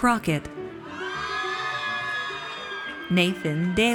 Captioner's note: audience cheers